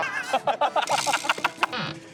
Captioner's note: everyone bursts out laughing at English skills